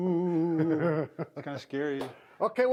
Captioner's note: laughs